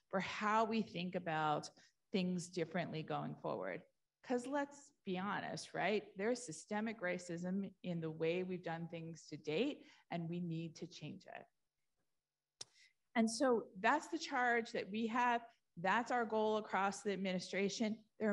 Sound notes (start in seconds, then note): none